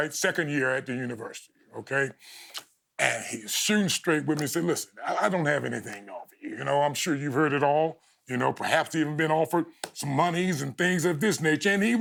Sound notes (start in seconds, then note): none